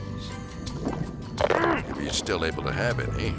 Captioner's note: bite crunches; diver grunts